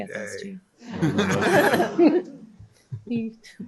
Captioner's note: laughter